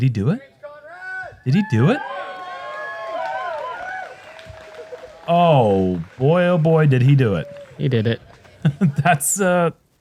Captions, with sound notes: Did he do it? Did he do it? [cheering] [applause] Oh, boy, oh, boy, did he do it. He did it.